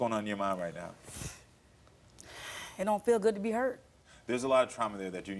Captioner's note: sniffles